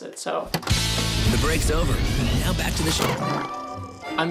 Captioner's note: nickelodeon narrator